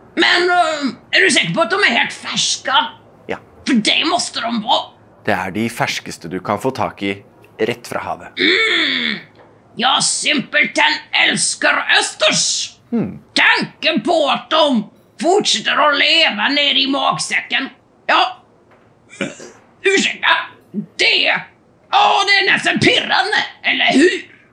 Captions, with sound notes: But, are they fresh? Yes. Because they really must be. They’re the freshest on the market, straight from the sea! Mmm, I simply love oysters! Mm. The thought of them still being alive inside my stomach, well, (burps) – excuse me, well, it’s simply enticing, don’t you think?